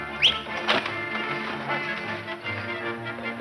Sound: whistling

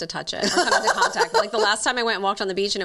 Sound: laughs

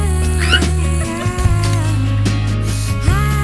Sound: laughter

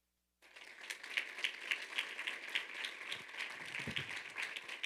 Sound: audience applauding

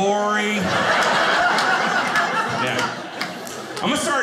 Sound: audience laughing

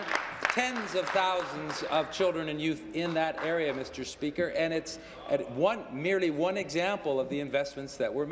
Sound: applause

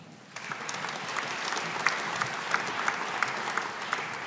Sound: audience applauding

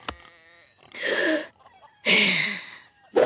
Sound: sighing; grunting

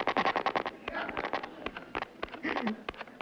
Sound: static

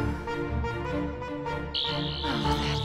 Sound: buzzing noise

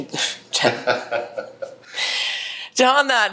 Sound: laughs

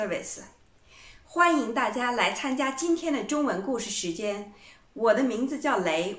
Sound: in Mandarin

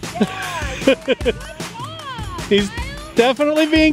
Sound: chuckles

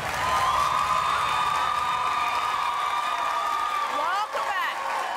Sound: audience clapping

